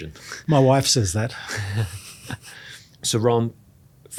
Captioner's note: laughs